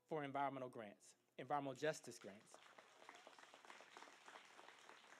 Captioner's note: applause